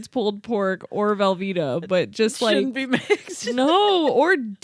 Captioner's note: laughs